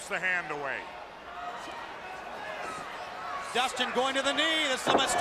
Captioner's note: crowd chatter